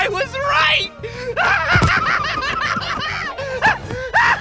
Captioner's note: laughing hysterically